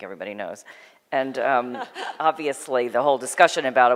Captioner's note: laughter